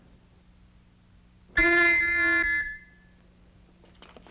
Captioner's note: horn blows